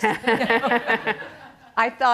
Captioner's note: audience chuckles